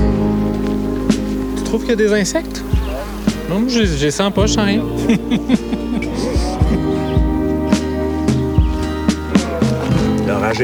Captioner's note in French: rires